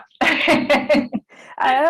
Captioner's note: laugh